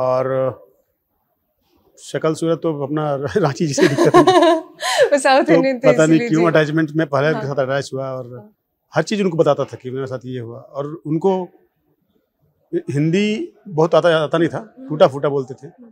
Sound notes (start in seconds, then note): 3.7 laughs